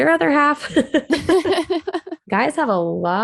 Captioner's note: both laugh